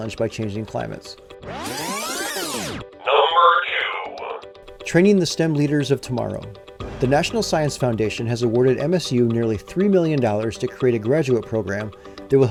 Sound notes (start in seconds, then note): 1.4 tape rewinding